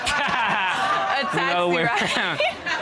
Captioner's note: laughs